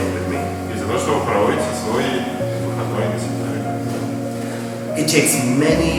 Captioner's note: speaking in a foreign language